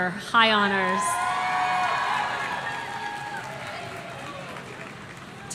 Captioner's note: audience cheering